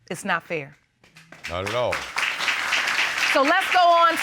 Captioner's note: audience applauds